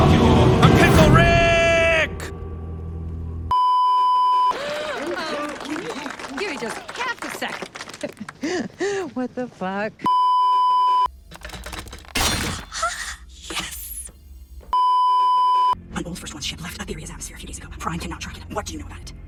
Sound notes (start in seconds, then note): 3.5 beeeeeeeeeeeep; 4.4 cheering; 10.1 beeeeeeeeeeeep; 13.2 gasp; 14.7 beeeeeeeeeeeep